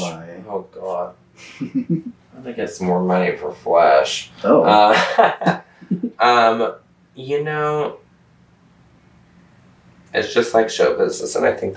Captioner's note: laughter